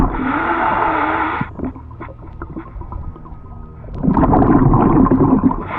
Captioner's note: water bubbling; air wheezing; air wheezing; water bubbling